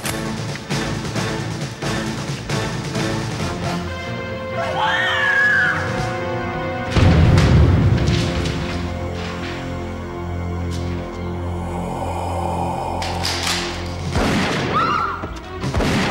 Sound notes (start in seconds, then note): 0.2 rapid tense orchestral music; 4.6 Anne screaming; 6.6 Anne thudding to floor; 8.0 papers rustling; 10.9 entity breathing heavily; 13.2 gun firing; 14.5 people screaming; 15.9 rapid tense orchestral music